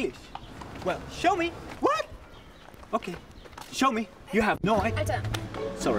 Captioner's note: mixes up English and German